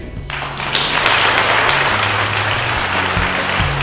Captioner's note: clapping